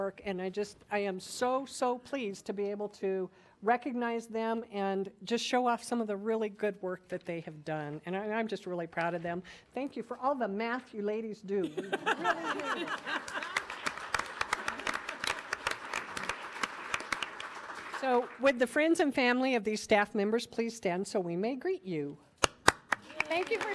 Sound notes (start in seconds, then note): 12.4 audience applauding